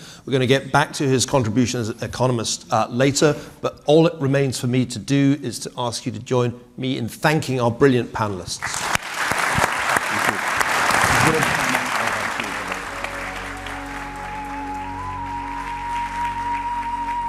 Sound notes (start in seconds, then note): 9.0 audience applauding; 13.7 gentle uplifting music